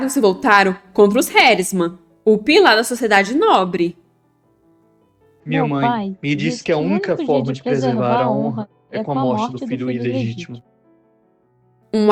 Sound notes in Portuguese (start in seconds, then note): 4.7 voz feminina; 6.6 voz masculina